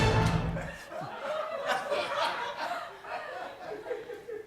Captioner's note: laughter continues